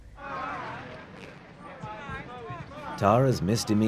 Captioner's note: shouting